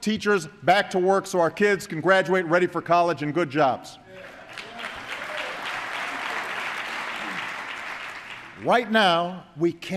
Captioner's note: applause